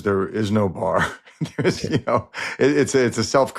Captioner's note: laughs